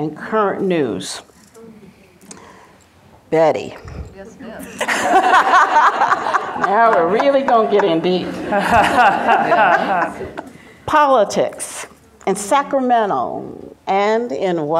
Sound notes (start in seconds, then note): 4.7 everybody laughs; 10.4 laughs